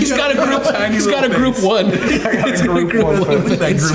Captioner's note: everyone laughing